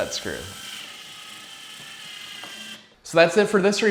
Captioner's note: drilling